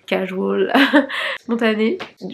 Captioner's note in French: rires